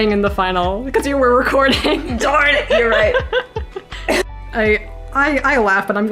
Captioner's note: cough